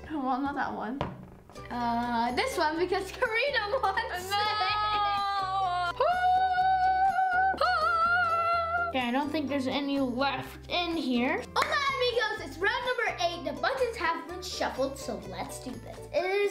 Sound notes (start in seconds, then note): 6.0 celebratory whooping